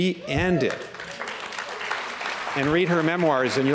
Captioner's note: applause